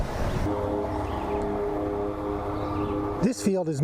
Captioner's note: tractor with mower sound